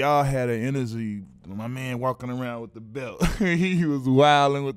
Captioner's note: laughs